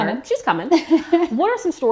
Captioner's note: laughs